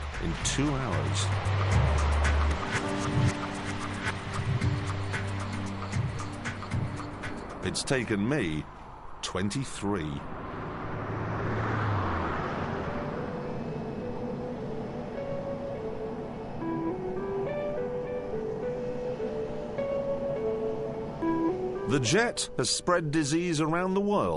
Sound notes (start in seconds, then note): 10.1 engine whirring